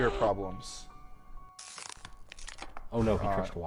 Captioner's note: water bottle crunching